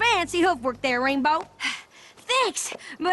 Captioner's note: breathing heavily